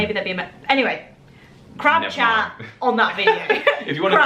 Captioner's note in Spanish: laughing